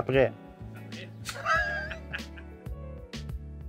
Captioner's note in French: rires